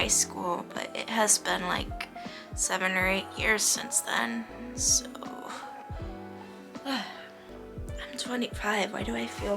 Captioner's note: sighs